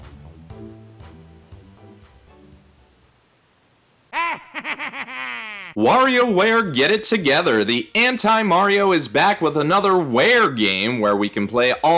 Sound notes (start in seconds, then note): 1.5 Wario laugh